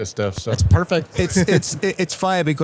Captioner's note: laughs